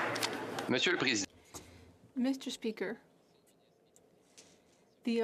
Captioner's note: speaking French